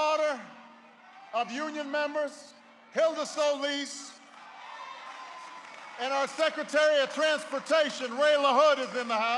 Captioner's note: applause